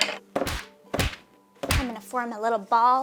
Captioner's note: fists thudding